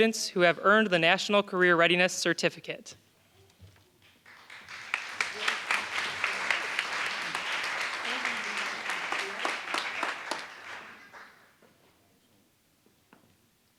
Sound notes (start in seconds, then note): 4.1 applause